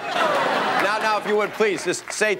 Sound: laughter

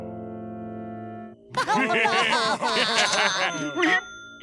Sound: laughing

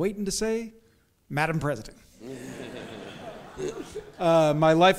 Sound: audience chuckles

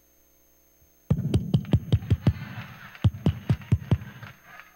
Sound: clapping

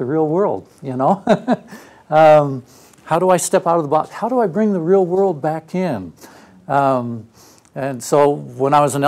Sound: laugh

